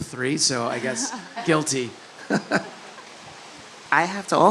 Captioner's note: laugh